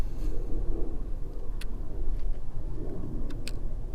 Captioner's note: wind blowing